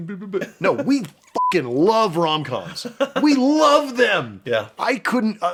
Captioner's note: beeping